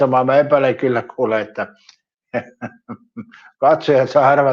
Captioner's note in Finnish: naurua